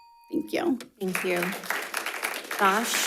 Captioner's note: audience applauding